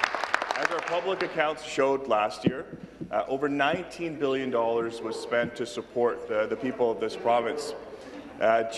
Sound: some Applause

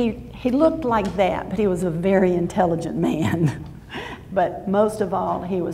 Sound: laughs

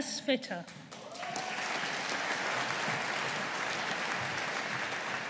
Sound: audience applauding

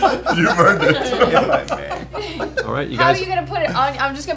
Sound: laughter

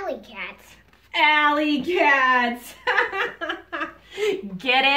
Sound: laughs

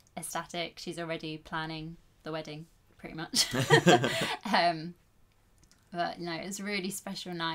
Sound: laughs

